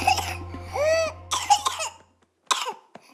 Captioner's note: gasps, coughs